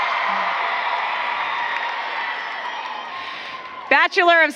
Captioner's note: applause